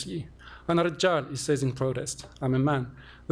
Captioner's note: non-english